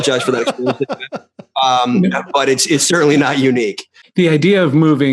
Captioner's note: laughter